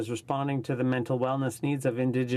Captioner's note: speaking in french